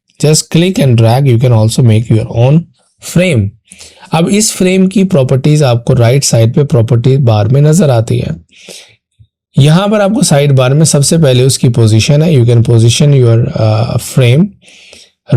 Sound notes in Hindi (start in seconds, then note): 7.5 नाक से की जाने वाली आवाज़